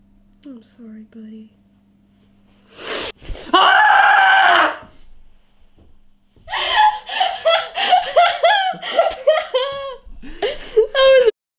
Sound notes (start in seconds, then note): 3.4 buddy screams; 6.5 Eta laughs